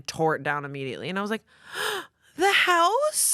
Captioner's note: gasps